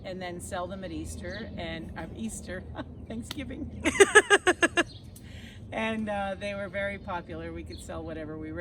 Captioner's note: laughing